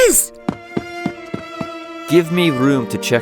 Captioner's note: running footsteps